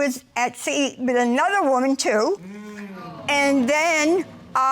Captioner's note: audience sighing